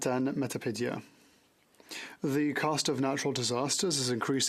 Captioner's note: speaking French